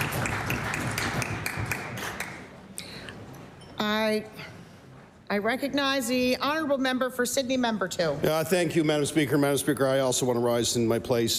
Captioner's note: applause